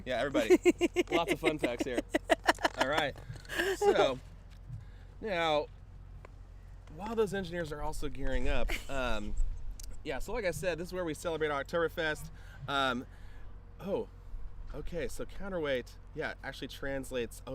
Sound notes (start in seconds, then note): 3.4 chuckles